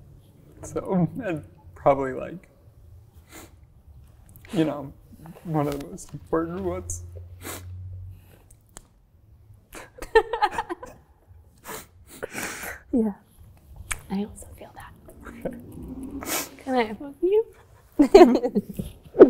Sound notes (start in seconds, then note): 9.8 both laugh; 18.7 laughs